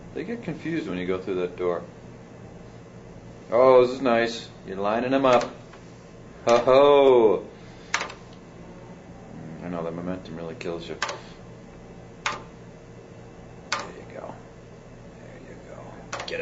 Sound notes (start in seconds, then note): 11.4 keys clacking